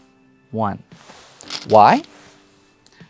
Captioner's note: stones rattling